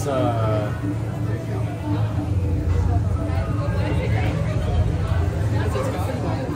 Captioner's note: chatter and Music